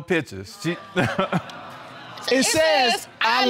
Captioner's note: laughs nervously